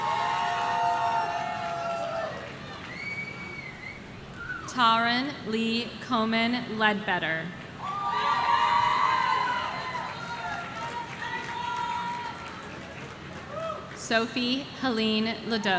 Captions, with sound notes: (audience cheering) Taran Lee Komen Ledbetter. (audience cheering) Sophie Helene LeDuc.